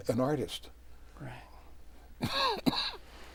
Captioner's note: coughs